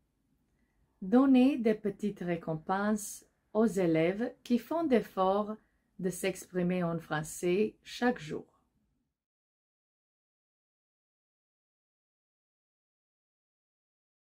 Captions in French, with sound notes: donnez des petites récompenses aux élèves qui font l'effort de s'exprimer en français chaque jour. [silence]